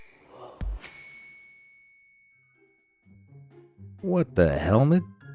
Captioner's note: bell dings